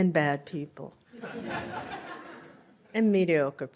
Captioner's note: laughter